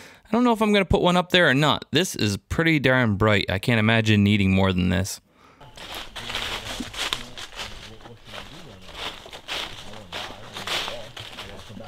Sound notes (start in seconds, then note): 5.6 people chattering